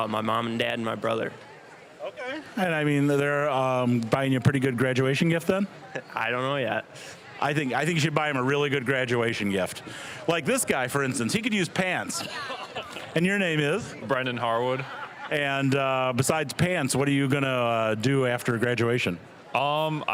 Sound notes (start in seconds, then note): 5.8 chuckling; 12.0 all laughing